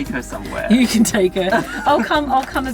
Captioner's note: laughing